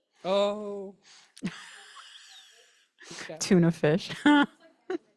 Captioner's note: chuckles; chuckles